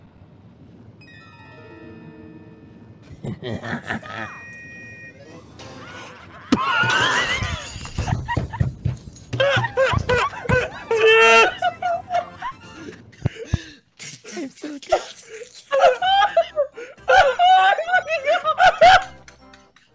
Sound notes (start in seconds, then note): 1.0 whimsical chiming music; 3.0 laughs evilly; 5.8 gasps; 5.8 laugh; 15.7 all laughing